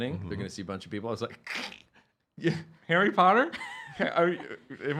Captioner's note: snickering